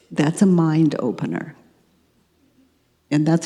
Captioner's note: none